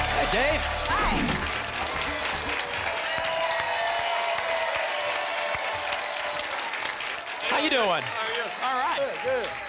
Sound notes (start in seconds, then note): 1.8 applause and cheering cont